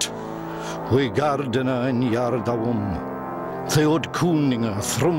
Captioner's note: man speaking Old English